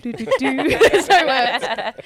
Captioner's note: all laugh